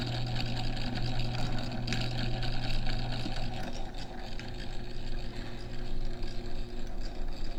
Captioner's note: whirring & clicking slows